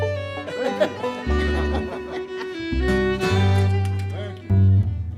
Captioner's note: gentle fiddle music; laughing